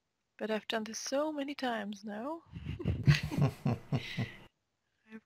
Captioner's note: both chuckle